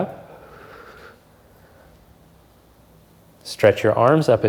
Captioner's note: exhales softly